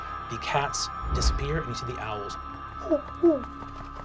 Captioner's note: hooting